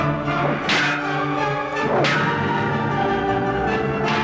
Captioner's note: swords clanging